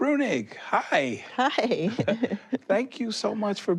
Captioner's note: chuckles